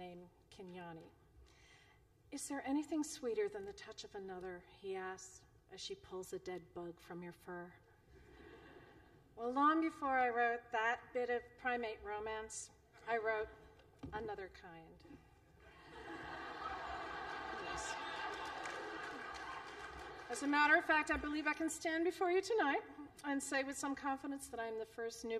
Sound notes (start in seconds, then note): 15.7 laughter